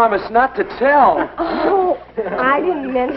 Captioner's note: giggling